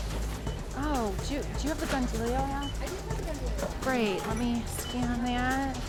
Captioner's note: cashier speaking routinely to customers